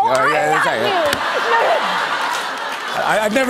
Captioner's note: laughter